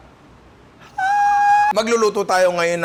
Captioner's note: falsetto